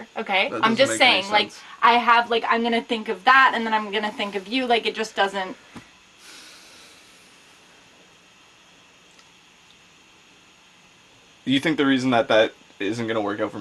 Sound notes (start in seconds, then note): 6.6 Tiffany sighs